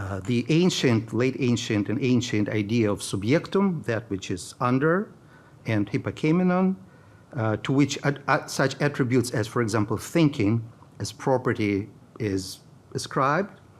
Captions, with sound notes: the ancient, late ancient and ancient idea of (speaking in foreign language), that which is under, and hypacaminon to which such attributes as, for example, thinking as property is ascribed.